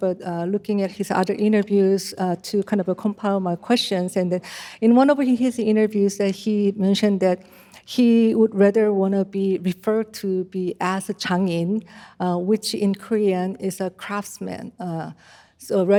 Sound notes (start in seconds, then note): none